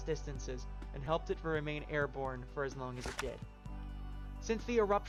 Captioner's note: page turning